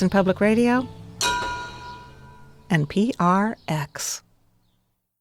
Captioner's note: bell chiming